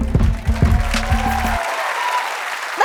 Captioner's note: applause